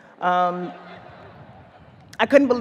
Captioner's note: audience laughs